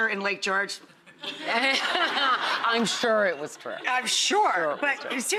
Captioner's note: laughs